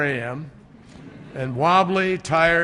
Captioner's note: laughter